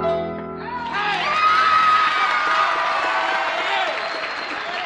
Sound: cheers, applause

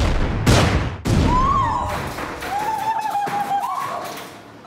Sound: explosion; screams

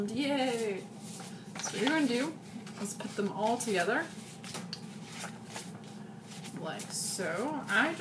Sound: more paper sounds

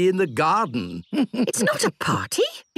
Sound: chuckles

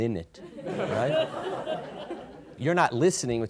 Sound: audience giggles

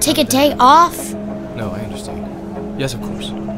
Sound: lowering voice

